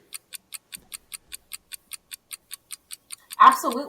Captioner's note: clock ticking